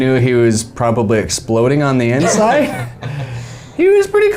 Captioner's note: laughing